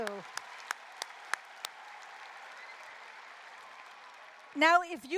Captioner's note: applause, cheering